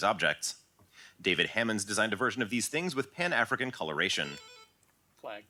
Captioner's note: buzz